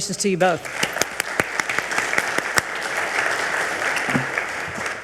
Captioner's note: audience applauds